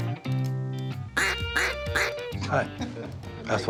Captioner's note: duck call